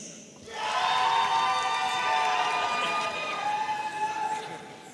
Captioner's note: audience applauding and cheering